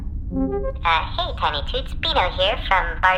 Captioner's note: message-start noise